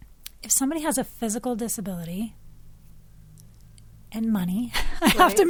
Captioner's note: chuckles